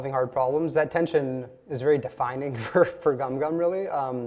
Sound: laughs

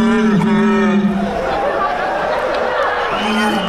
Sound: laughing

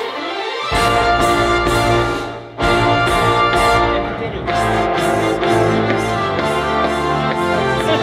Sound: beatboxing; laughing

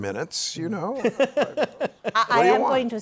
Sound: laughs

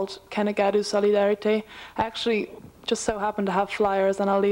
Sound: non-english speech

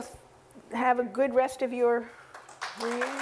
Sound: applause

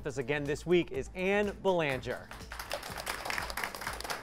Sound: applause

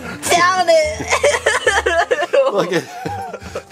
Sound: both laugh

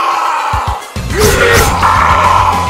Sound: angry chihuahua man screams; angry forest man screams

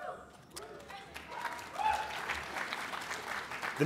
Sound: applause

